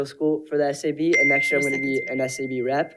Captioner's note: bell dinging